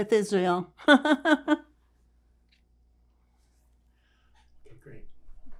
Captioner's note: laughing